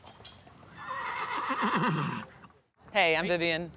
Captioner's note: horse neighs